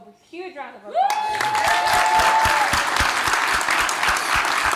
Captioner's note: applause